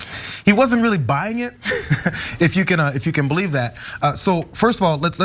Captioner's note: laugh